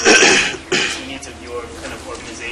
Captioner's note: cough